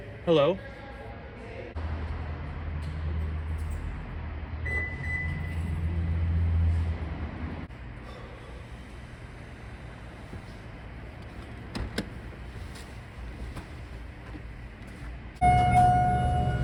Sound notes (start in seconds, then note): 4.6 car alarm beeping; 15.4 elevator dings